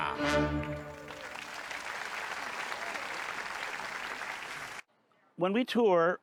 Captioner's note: audience applauds